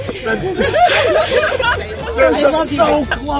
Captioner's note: crowd laughing